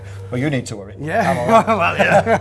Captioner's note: laughs